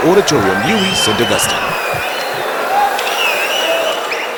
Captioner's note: wild applause and cheering for 22 seconds